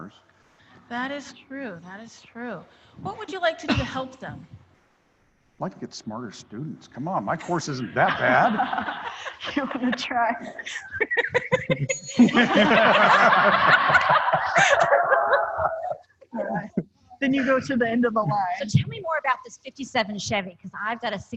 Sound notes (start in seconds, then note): 12.6 laughter; 15.0 rang bell